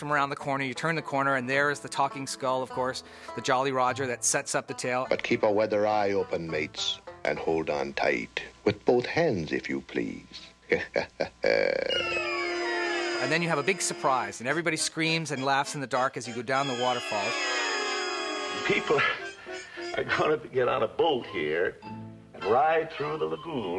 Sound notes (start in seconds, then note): 10.6 chuckles